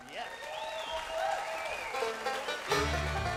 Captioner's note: audience applauding; bluegrass music